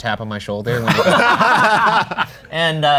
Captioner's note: laughing